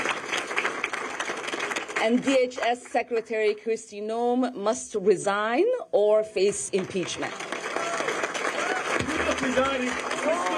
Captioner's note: applause